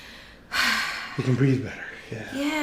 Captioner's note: sighs